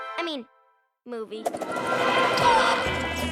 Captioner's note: bird squawks; suspenseful music